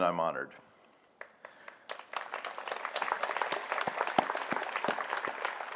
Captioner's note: audience applauds